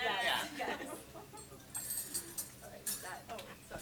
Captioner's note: dishes and cutlery clink